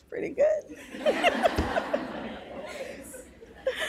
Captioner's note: laughs